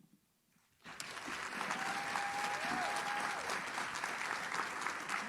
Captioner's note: audience cheers